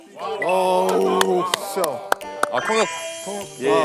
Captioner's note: the applaud gets louder as he comes closer